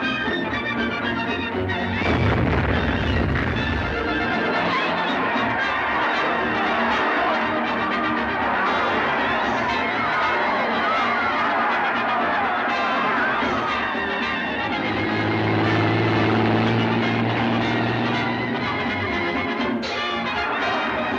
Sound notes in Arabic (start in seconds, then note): 2.0 انفجار متفجرات; 5.3 صراخ الحشد; 15.3 هدير المحرك; 17.8 تستمر الموسيقى المبهجة; 20.9 صراخ الحشد